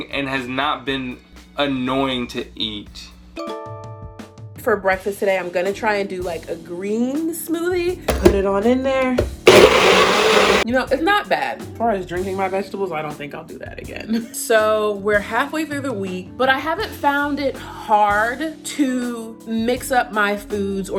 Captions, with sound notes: and has not been annoying to eat. - For breakfast today I'm gonna try and do like a green smoothie. Put it on in there (machine buzzing) You know it's not bad. As far as drinking my vegetables, I don't think I'll do that again. So we're halfway through the week, but I haven't found it hard to mix up my foods